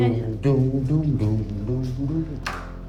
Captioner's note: hums a bassline